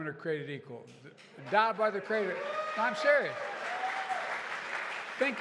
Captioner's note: applause